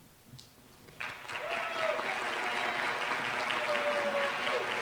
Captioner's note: applause